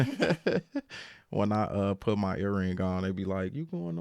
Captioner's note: laughing